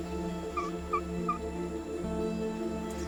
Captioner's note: chirping